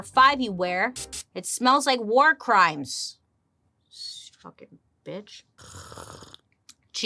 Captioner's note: slurps